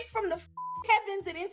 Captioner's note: beep